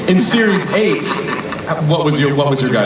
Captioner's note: voiceover